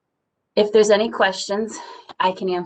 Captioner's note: sighs